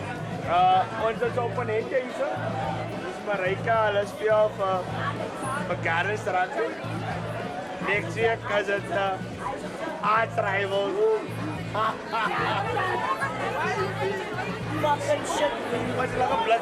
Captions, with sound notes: This is Marijke, she and her friends play for Gardens Rugby Club. Next week is a big one - our Arch Rivals! [LAUGHS] No, we don't talk about rugby here! Fuckin' shit club!